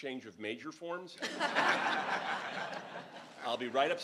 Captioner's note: crowd laughing